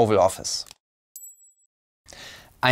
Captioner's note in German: Leises Klingeln